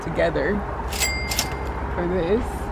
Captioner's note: cash register rings